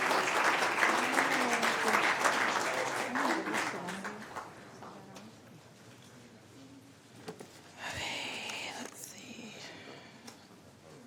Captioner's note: applause